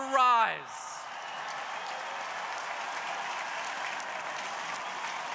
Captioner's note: crowd applauding